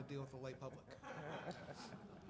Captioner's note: laughter